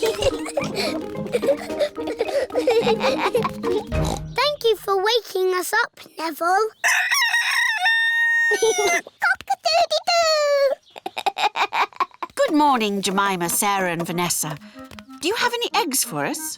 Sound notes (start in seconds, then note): 0.0 both giggling; 3.7 oinks; 7.0 neville crows; 8.4 laughs; 10.9 giggles